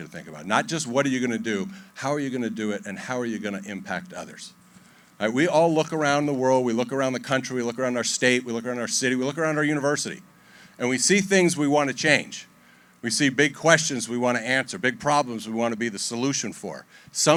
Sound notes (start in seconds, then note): none